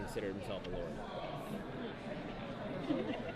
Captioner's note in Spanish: ruido de multitud